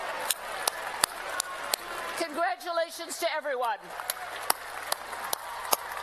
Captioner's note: applause